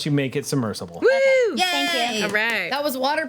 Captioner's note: group cheers